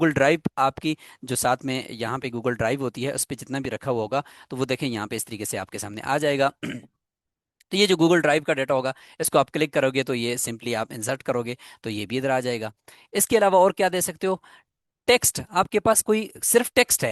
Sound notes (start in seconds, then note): 6.6 clearing throat